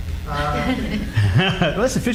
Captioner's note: laughing